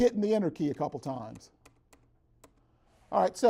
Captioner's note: clicks enter key